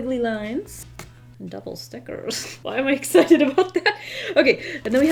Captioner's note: laughs